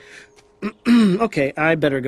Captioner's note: clears throat